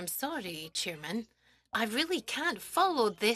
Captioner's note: speaking French